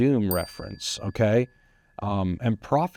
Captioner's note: bell dings